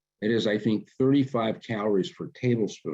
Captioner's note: none